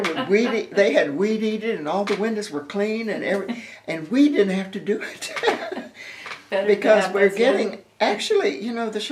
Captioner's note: laughter